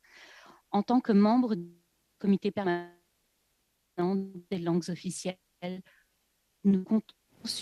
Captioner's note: speaking French